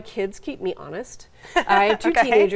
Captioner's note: laughing